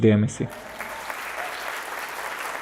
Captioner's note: applause